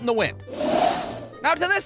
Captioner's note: whoosh!